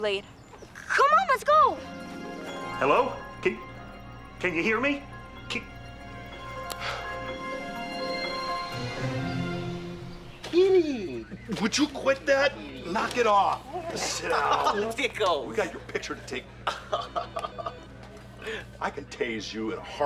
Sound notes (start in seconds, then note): 14.2 laughing